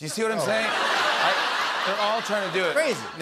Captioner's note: laughter